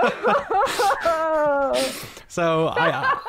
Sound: laughs

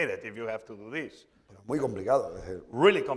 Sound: speaking spanish

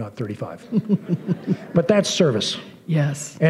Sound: laughter

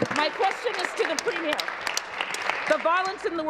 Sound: applause

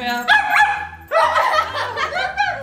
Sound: dog barking; family laughing

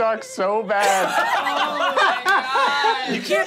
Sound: laughing

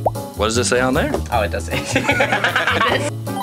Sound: bubble pops; all laugh

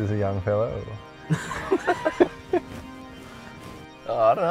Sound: both laugh

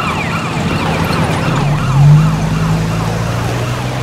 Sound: car sounds

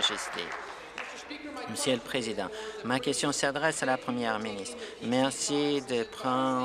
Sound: applause

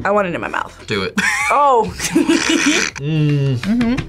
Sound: laughs

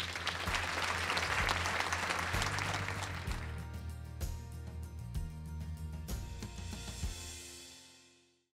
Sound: applause/Music

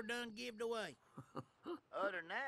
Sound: laughs

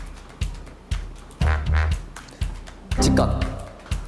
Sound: breathing in and out

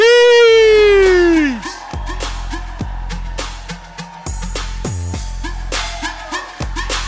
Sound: audience cheers; vigorous music

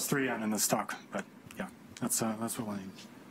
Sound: speaking faintly

